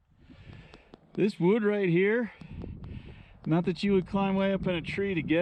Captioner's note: wind blowing; tapping